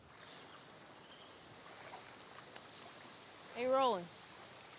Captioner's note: birds chirping